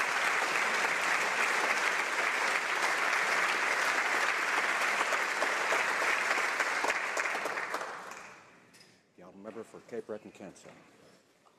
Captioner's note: some Applause